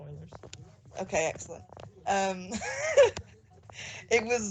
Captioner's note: laughs